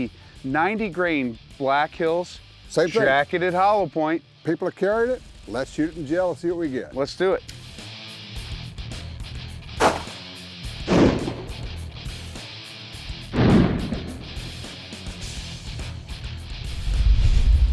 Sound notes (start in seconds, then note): 7.7 rock music plays; 9.8 gun shot; 10.8 gun shot echoes; 13.3 gun shot echoes; 14.4 rock music plays